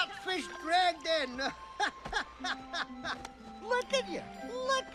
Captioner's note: laughing